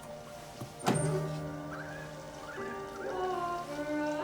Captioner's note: window creaks